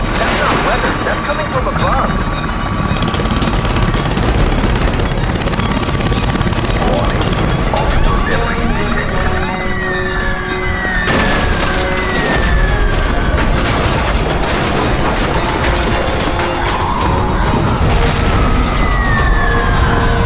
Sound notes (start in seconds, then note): 2.6 rescue helicopter approaching